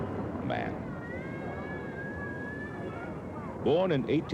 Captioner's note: overlapping conversations, child crying